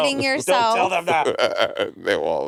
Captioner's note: Monét laughing